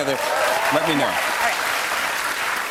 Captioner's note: cheers and applause